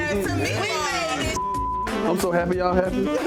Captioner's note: beep